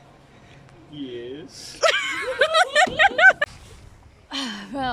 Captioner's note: giggling